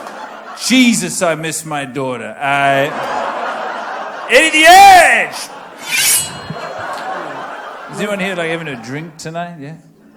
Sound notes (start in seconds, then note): 5.8 knife slicing sound